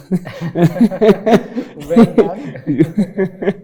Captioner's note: giggles